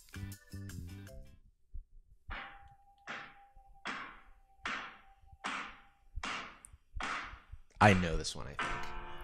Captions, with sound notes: (dissonant clanging) I know this one, I think.